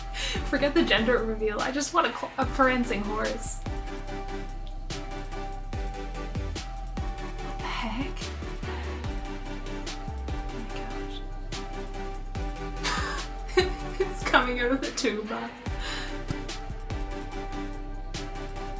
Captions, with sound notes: Forget the gender reveal, I just want a prancing horse. What the heck? Oh my gosh. [Laughs] It's coming out of the tuba!